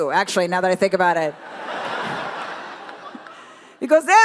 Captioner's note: crowd laughs